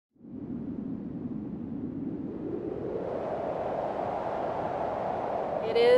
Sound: wind blowing

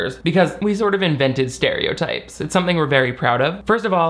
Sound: none

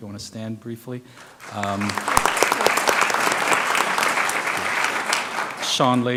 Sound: applause

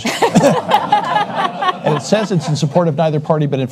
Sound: audience laughs

